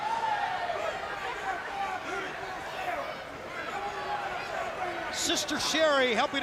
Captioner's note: crowd chatter